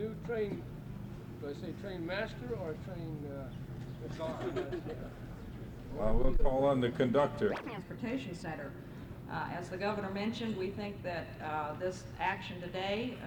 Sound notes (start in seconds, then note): 6.0 camera noise